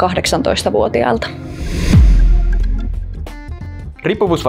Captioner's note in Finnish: siirtymä-äänitehoste